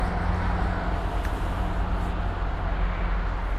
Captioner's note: cars passing